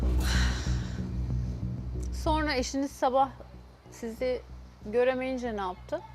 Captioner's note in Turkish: iç çeker